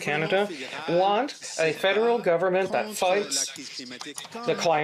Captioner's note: speaking French